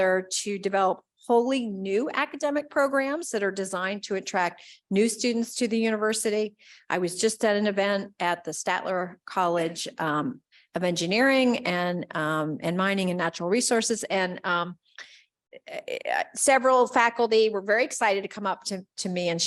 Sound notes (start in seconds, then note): none